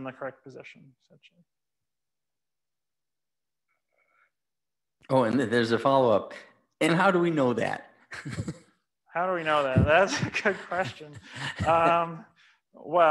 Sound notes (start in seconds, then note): 9.5 laughs